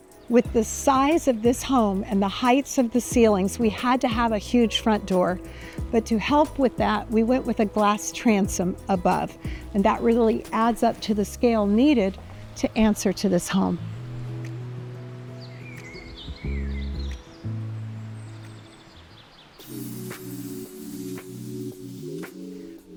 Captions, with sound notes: With the size of this home and the heights of the ceilings, we had to have a huge front door. But to help with that, we went with a glass transom above and that really adds up to the scale needed to answer to this home. (birds twittering) (bright music)